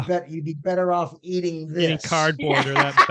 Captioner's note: laughing